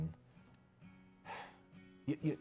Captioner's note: suspiro